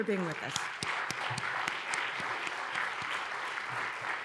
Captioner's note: applause